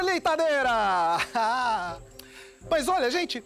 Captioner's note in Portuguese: Risada